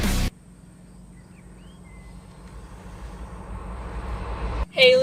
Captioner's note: birds chirping